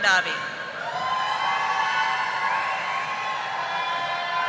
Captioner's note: audience applauding